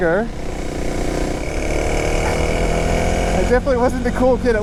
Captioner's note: motorbike engine roaring